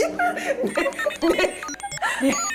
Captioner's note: confused sound effect